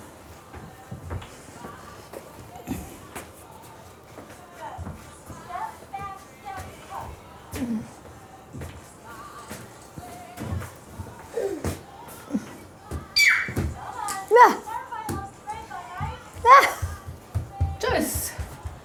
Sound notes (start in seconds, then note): 13.1 shrieks